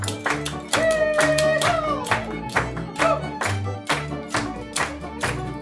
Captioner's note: performers shouting